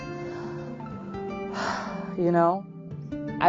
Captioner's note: sighs